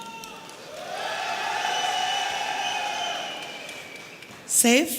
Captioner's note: audience cheering